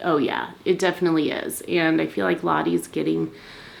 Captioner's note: none